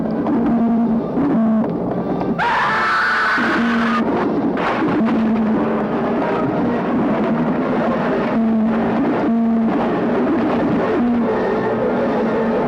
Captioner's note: scream